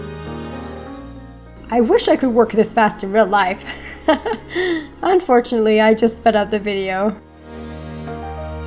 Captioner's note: laugh